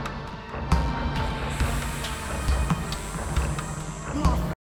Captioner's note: snake hissing